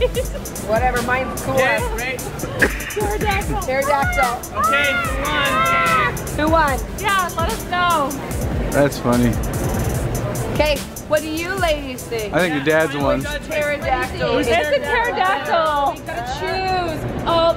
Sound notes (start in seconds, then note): 4.4 making pterodactyl cries